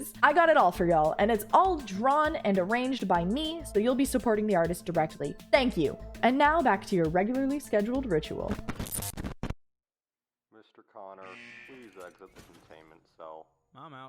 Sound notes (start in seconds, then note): none